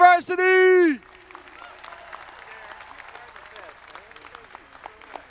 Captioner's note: audience clapping